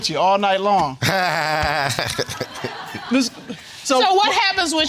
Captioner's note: all laughing